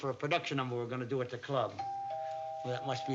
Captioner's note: doorbell rings